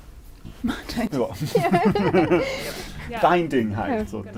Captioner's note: laughing